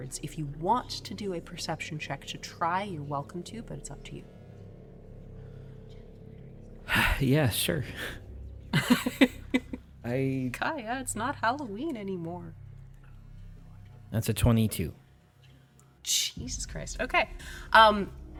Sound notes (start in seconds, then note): 8.7 chuckles